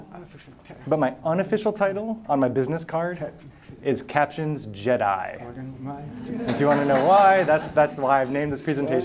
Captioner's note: laughter